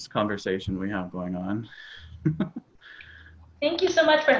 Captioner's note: chuckles